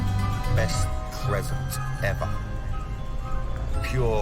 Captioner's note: echoing